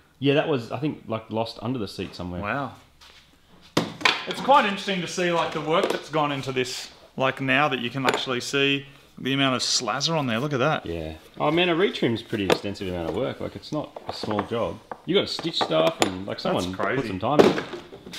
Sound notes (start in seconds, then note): 3.7 clatters; 15.6 metallic clattering